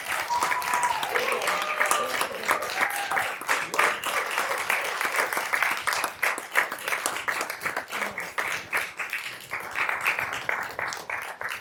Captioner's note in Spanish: Aplausos y aplausos